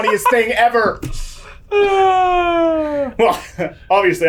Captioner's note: laughing